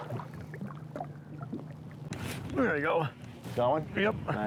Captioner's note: water splashes